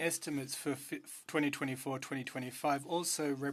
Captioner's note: speaking French